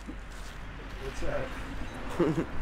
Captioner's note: voiceover; laughs